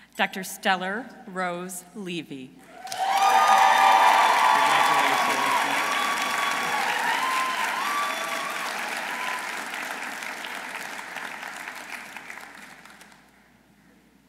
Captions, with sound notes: Dr. Stellar Rose Levy. -(audience cheering) -(audience applauding)